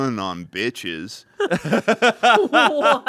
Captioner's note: laughs